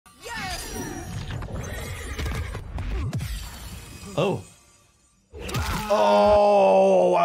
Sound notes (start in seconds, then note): 1.7 unicorn neighs; 3.5 fighter groans